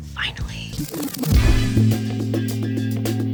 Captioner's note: record scratching; upbeat music